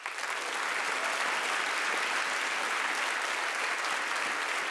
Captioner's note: audience applauding